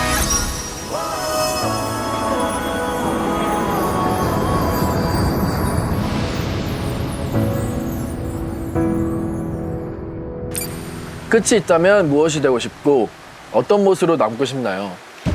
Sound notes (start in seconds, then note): 0.8 turbulence